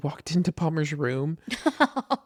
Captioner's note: laughs